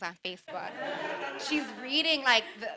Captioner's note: audience laughing